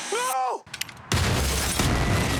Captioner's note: explosion